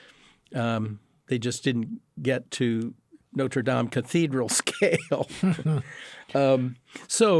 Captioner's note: laughs